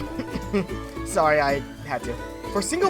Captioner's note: coughs